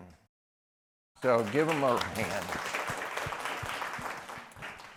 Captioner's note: applause